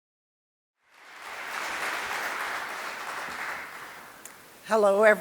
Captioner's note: applause